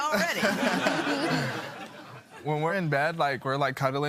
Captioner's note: laughter